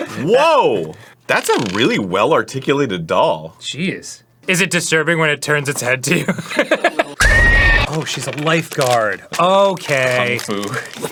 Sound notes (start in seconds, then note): 7.2 horror movie scream